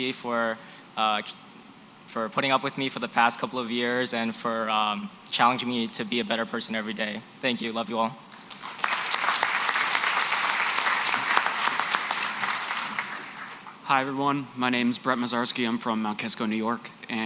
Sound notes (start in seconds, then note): 8.4 applause